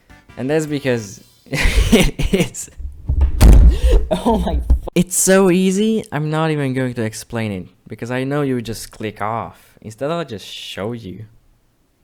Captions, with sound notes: And that's because.. it is. *microphone falls over* -oh my f- It's so easy I'm not even going to explain it. Because I know you would just click off. Instead I'll just show you.